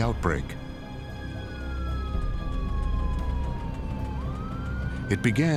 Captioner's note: siren wailing